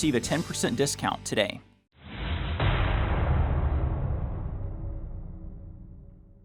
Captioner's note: metallic clash